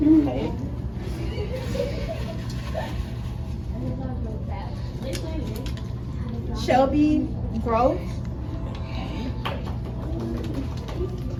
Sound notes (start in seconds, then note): 1.0 students giggling; 4.8 papers rustling